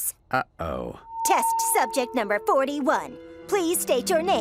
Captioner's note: sarcastically